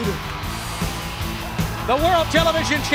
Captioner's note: crowd cheering